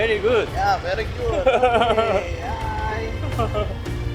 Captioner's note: laughs